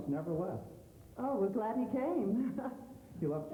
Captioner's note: chuckles